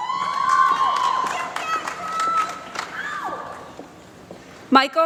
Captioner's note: applause